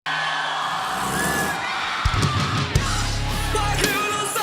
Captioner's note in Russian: толпа ликует